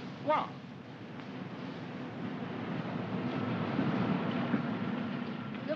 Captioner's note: vehicles rumbling